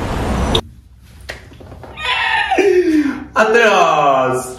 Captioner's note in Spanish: risas